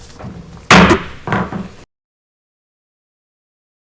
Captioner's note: gavel bangs